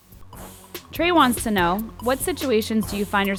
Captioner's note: voiceover